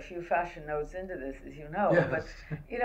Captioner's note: laughs